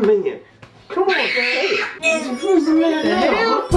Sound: child screeching

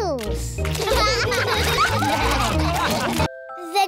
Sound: all laugh

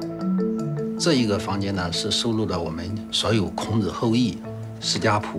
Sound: speaking Chinese

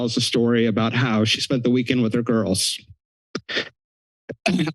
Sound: clears throat

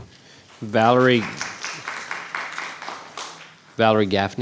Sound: audience applauds

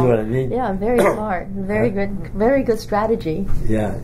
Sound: coughs

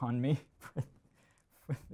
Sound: chuckles

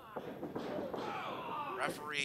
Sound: yelling

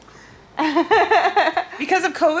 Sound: laughing

